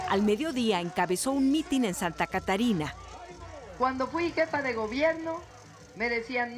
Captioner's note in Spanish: bullicio